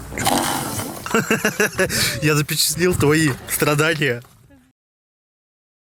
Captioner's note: off-screen laughter